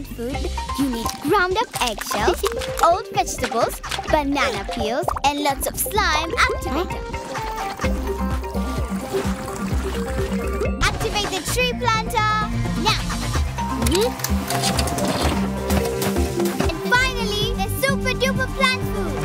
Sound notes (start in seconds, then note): 8.0 rhythmic music; 12.3 drone buzzing; 13.3 clicking; 15.3 rhythmic music